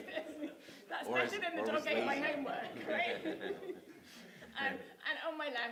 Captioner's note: laughter